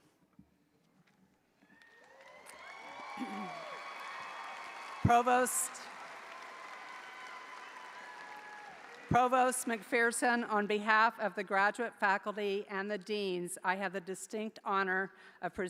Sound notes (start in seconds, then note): 1.7 audience applauding; 1.7 audience cheering; 6.0 audience applause continues; 6.0 audience continues cheering